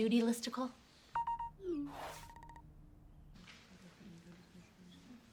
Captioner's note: phone Beeping